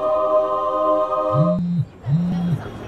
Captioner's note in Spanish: zumbido de celular